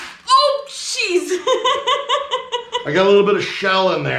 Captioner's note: laughing